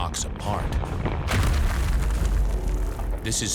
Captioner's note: explosion roars, rock crumbling